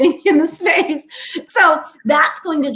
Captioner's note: laughter